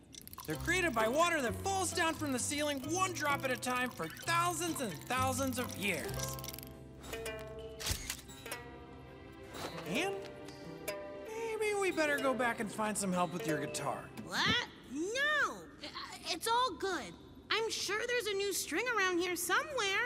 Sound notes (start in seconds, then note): 7.8 shutter clicks